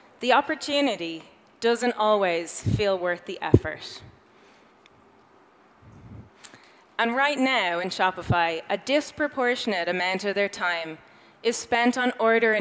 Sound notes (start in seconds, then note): none